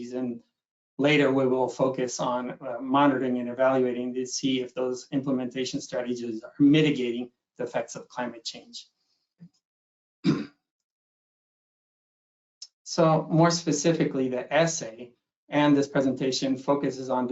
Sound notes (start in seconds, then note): 10.2 clears throat